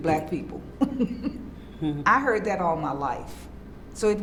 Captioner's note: laughs